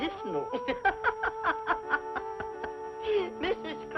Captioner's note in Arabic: يضحك